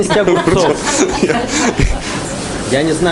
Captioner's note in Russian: гомерический смех